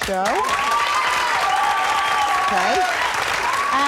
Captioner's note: audience applauds